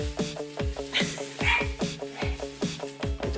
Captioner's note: dog barks